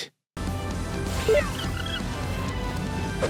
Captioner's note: beeps